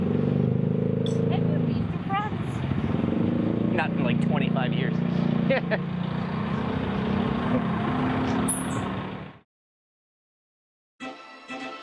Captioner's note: laughs